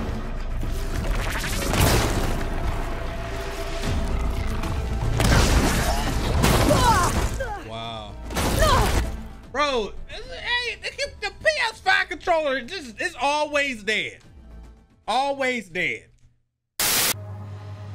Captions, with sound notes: (bow firing) (Aloy yelps) Wow. Bro, it's the, eh, the PS5 controller, it's just, it's always dead. Always dead.